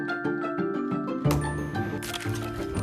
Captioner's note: cracking